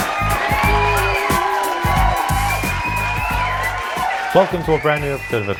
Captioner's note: applause; cheers